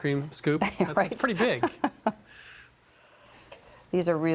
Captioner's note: laughs